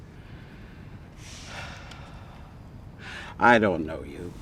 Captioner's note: sighs